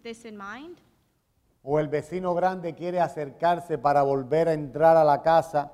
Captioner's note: speaking in Spanish